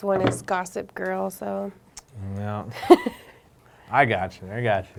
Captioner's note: both laughing